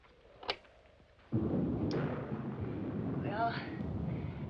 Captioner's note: thunder booming